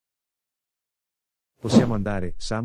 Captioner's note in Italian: FX - Whoosh - 03